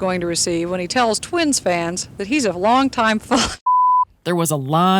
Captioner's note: beep